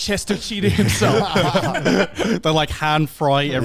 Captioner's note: all laugh